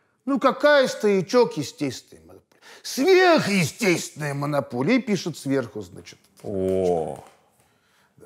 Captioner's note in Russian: none